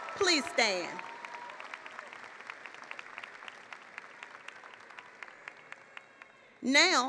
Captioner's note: applause